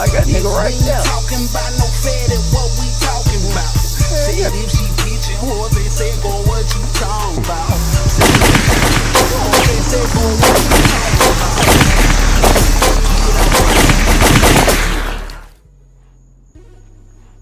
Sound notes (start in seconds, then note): 7.9 guns firing; 8.7 trap music continues; 12.3 guns firing; 12.3 trap music continues